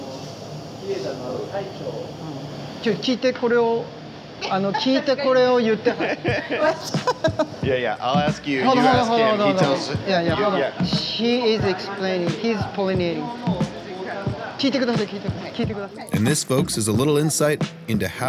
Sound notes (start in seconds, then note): 0.9 speaking Japanese; 5.6 laughs; 14.7 speaking Japanese